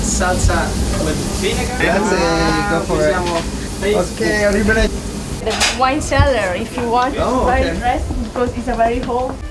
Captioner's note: chattering